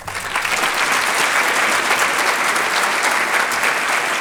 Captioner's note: applause